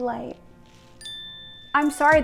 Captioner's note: bell shimmering